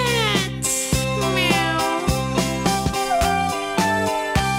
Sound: cat mewling

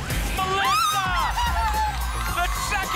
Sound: screams

